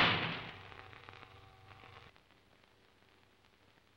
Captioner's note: door slams